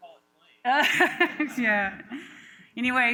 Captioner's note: laughter